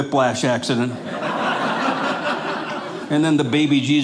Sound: audience laughing

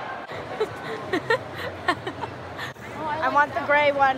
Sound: laughing

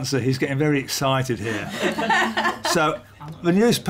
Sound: laughter

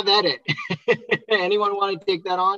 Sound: laughing

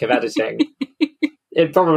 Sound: laughs

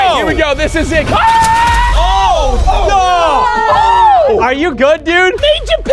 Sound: screaming

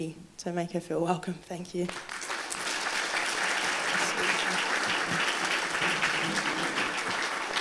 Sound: applause

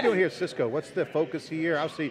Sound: laughing

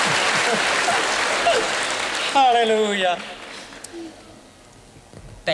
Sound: boisterous applause and cheering; laughter

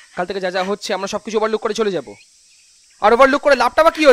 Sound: none

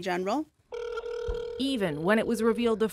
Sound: phone rings

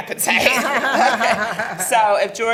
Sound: laughing

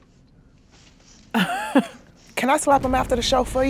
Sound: laughs

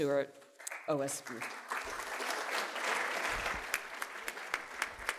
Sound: audience clapping

